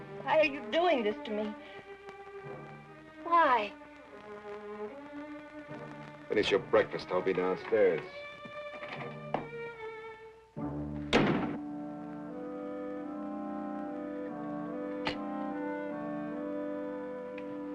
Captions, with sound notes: Why are you doing this to me? Why? - Finish your breakfast, I'll be downstairs. (door thuds) (somber intense music)